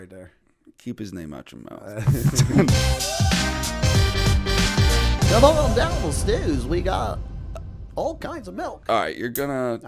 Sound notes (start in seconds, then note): 2.0 laughter